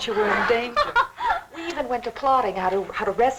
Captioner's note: laughing